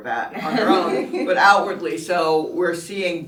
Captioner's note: everyone laughs